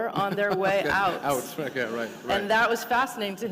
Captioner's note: laughter